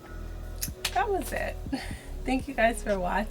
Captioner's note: laughs